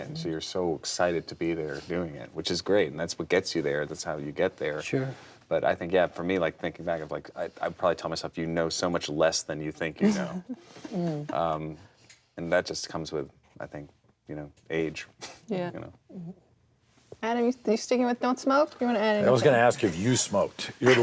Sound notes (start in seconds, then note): 10.0 giggles